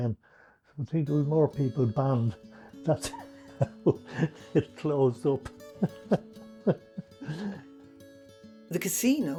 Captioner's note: laughs